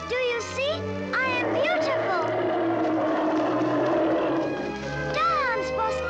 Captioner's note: bear growls